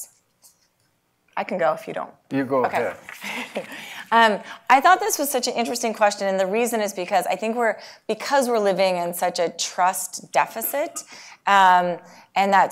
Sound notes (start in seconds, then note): 3.0 laugh